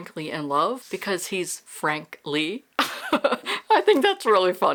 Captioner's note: laughs